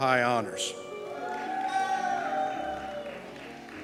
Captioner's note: cheers